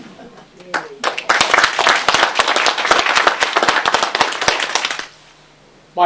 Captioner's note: applause